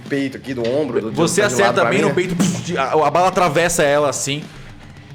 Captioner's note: pow